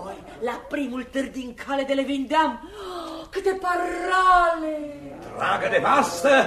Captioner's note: gasp